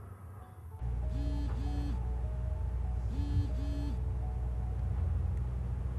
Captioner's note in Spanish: sonido de mensaje